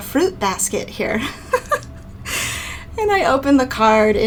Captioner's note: laughing